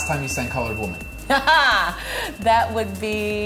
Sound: laughing

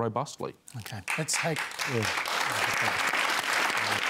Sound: applause

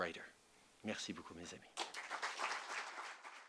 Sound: applause

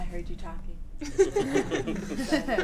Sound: laughter

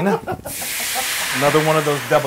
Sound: laugh

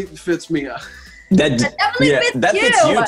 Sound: laughing

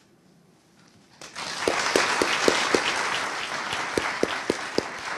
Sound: audience applauding

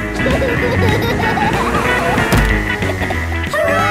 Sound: laughing

